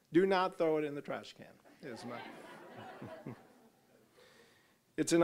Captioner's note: audience laughing